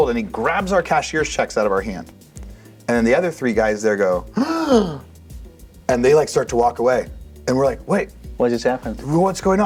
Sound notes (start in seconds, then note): 4.3 gasps